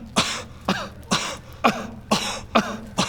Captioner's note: kuh